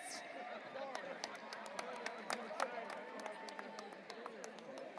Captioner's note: audience applauding